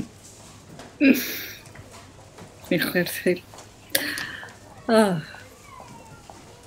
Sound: laughing

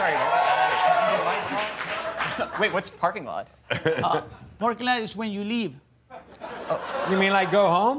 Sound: cheers and applause

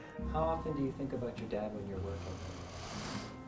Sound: sighing

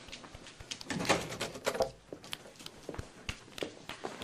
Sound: door opens

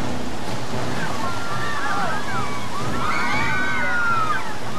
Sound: dramatic music; crowd screaming

